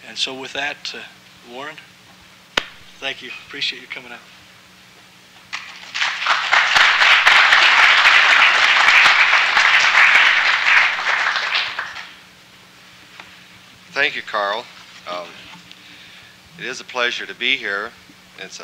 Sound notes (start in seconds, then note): 5.5 applause